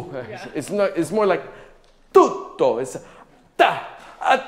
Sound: speaking in a foreign language

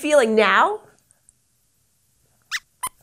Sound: squeaks squeaks

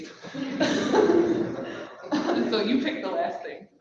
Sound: people laugh softly

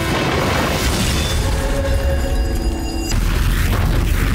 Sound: smash; ringing echoes; flames roar

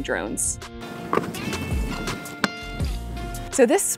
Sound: latches clicking

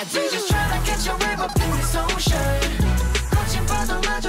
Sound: haha

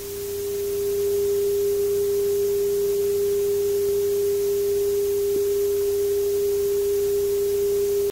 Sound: test tone

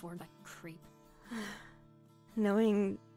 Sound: sighs

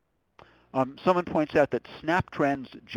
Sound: voiceover

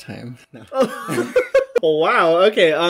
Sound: both laughing

